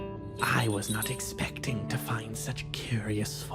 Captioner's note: none